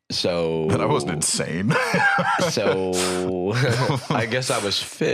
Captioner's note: laughs